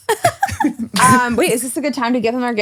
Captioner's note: laughing